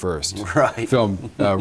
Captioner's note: laughs